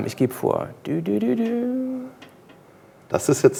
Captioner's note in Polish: mruczy